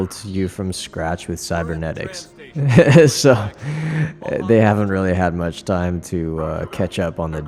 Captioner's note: laughs